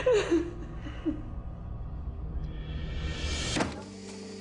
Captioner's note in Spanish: Llanto de Josefina